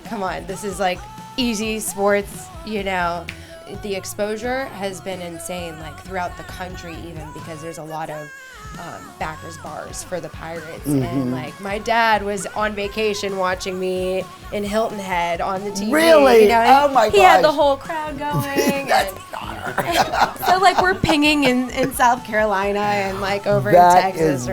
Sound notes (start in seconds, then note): 18.1 laughing